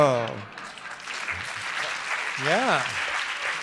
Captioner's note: audience applauding